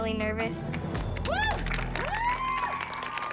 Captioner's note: applause and cheering